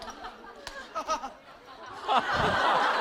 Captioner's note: haha